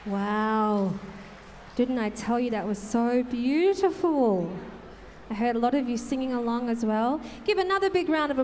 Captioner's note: applause